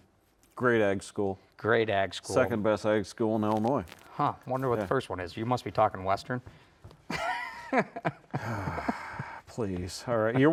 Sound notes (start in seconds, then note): 7.1 laughing; 8.4 sighing